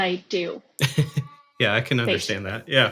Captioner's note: laughing